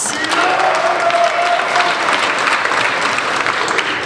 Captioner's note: applauding